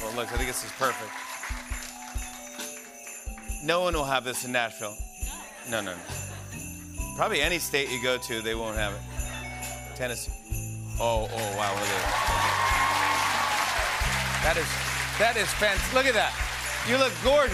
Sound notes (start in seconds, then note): 11.3 cheers and applause